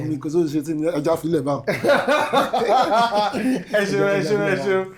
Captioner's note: laughs